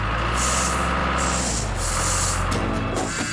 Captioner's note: engine Running